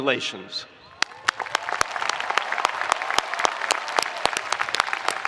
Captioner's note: spectators applauding